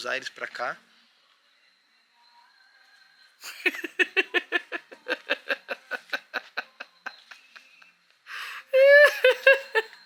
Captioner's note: laughs